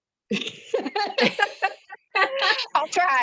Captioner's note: laughter